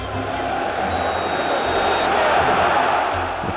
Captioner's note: referee blows whistle